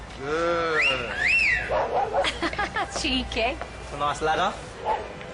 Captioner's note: wolf-whistles; laughs